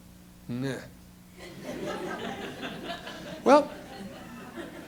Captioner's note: laughter